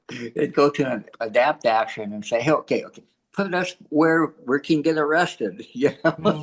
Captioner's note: laughs